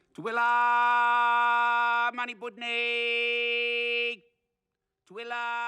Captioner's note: speaking in language